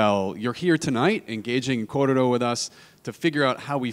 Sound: speaks in a foreign language

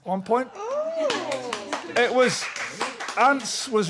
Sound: applause

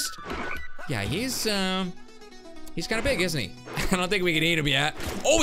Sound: laughs

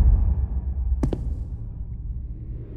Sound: echoing knock; footstep

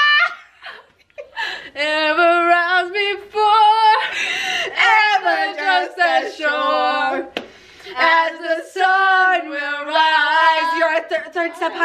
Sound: laughing

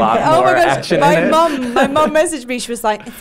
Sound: laughs

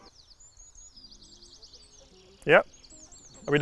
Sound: birds twittering

